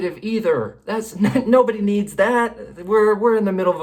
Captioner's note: laughs